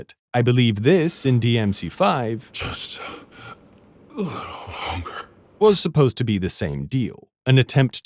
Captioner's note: in a distorted voice